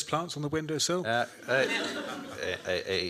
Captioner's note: laughter